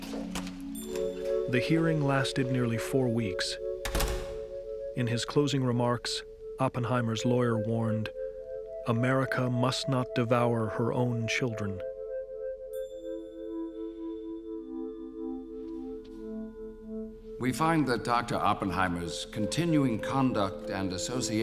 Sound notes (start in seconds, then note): 1.3 door opens; 3.8 door closes